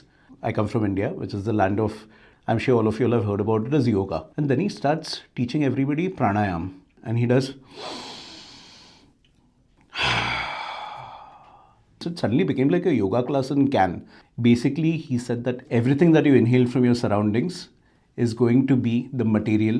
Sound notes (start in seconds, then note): 7.6 exhales deeply; 7.6 inhales a deep breath